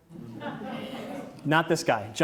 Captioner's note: audience laughs